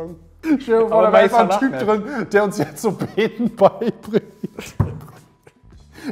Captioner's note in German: lacht